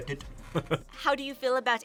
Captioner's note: laughs